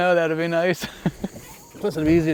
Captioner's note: laughter